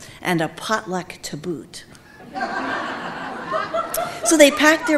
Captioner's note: audience laughing